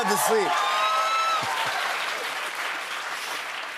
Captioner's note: cheers and applause